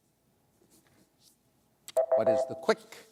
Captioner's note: beep